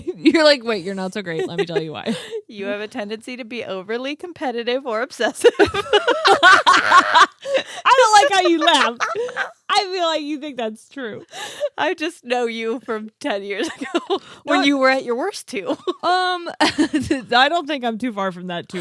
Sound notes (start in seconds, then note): 5.4 laughing